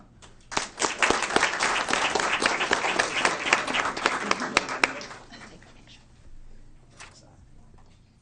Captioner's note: applause